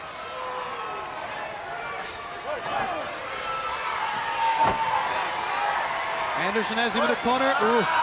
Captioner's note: crowd cheering